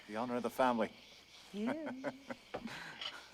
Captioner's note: hugh laughs